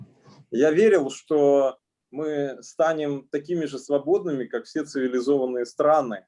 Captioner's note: speaking Russian language